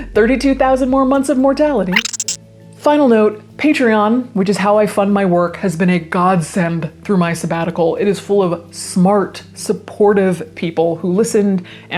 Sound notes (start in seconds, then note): 2.1 groundhog shrills